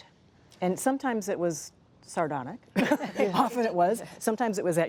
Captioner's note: laughing